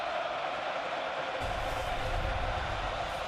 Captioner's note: crowd cheering